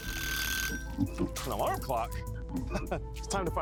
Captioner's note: bell rings; chuckles